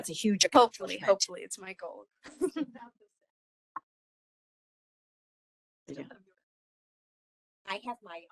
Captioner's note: laughing